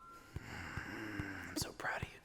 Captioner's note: sighing